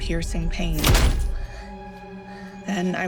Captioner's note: stabbing effect